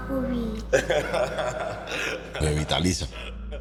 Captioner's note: laughs